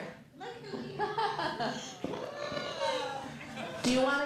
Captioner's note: laughs